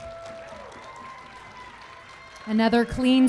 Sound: crowd cheering

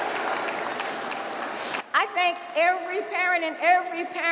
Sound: applause

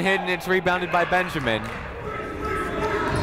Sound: shouting

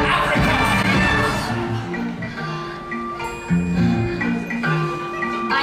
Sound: Cady exhales

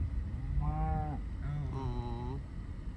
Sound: cow moos

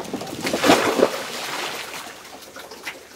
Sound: splashing water

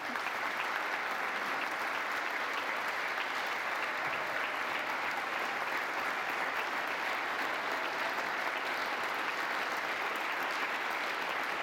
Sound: applause

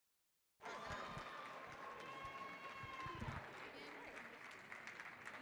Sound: audience cheering

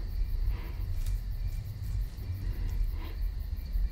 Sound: crickets chirping

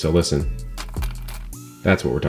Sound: ginger rattles

